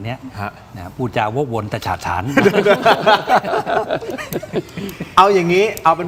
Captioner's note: laughs